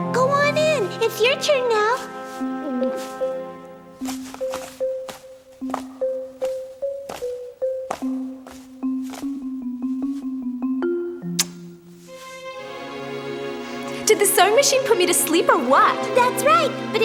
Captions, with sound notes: - Go on in. It's your turn now. (gulps nervously) (smooch) - Did the sewing machine put me to sleep, or what? - That's right.